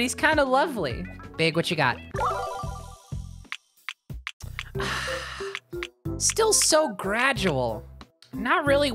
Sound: disappointed sigh

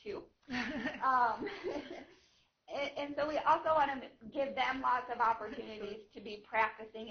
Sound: laughter

